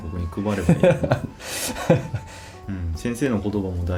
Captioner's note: laughs